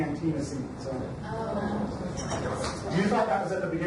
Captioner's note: overlapping chatter